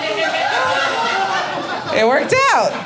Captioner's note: audience laughing